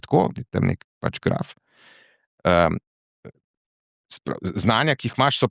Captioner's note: coughing